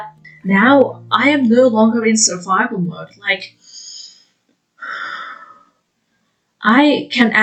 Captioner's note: takes a deep breath